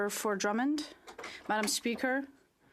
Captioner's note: speaking French